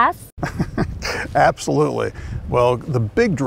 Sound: laughs

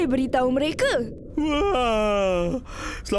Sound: yawning

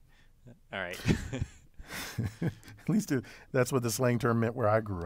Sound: laugh

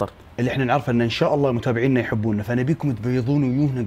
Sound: none

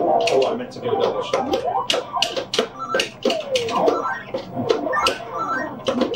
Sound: game beeping

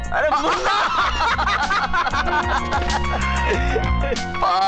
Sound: laughs

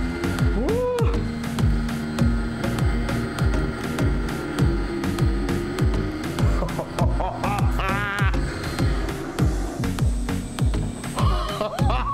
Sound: gasp and Laughter

